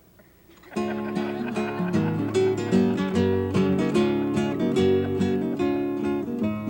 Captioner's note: audience laughs; upbeat guitar music